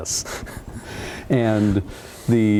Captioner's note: laughing